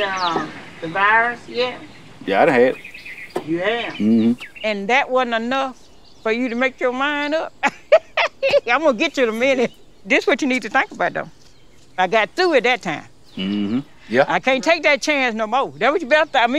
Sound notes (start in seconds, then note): 7.5 laughs